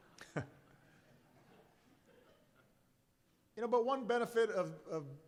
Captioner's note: laughter